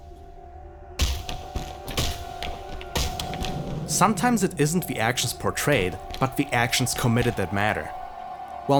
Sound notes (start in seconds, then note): 1.0 repeated thuds